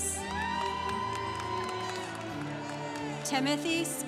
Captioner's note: congregation cheering